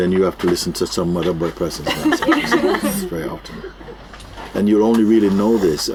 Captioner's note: laughter